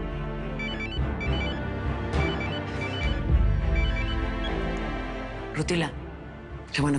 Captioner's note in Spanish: Suena el celular